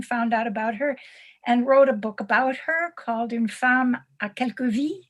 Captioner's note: non-english speech